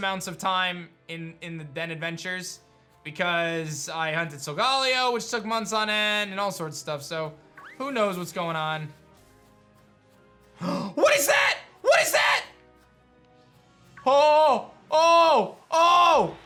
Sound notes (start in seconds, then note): 10.6 gasps